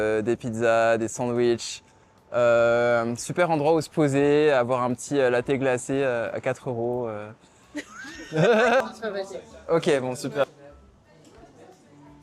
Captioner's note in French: rires